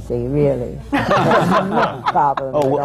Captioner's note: laughter